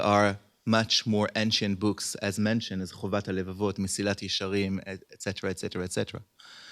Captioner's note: hebrew